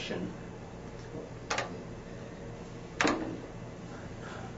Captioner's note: keys clacking